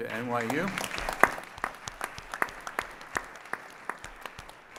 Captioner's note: audience applauds